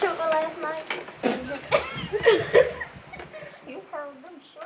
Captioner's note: girls laugh